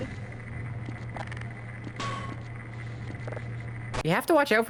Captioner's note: Half-Life sound effects